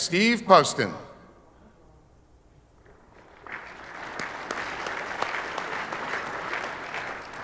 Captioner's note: audience applauding